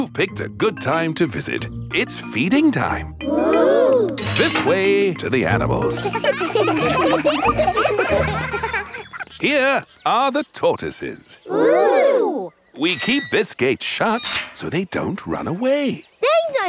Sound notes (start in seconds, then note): 5.6 children laughing